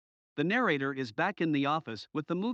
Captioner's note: voiceover